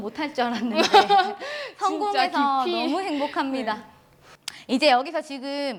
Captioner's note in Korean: 웃음